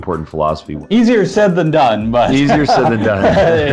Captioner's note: laughs